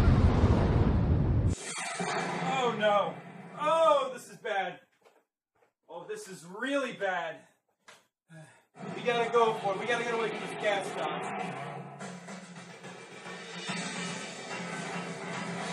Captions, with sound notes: *gas dock explodes* Oh no! Oh this is bad Oh this is really bad! But we gotta go for it, we gotta get away from this gas dock.